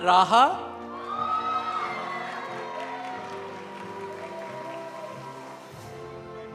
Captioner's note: audience cheering; audience applauding